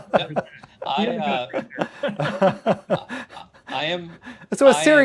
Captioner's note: laughter